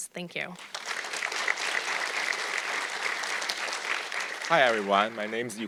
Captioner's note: audience clapping